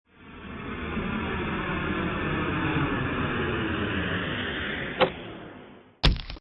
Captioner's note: sound of airplane landing